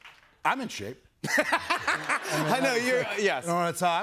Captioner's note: laughter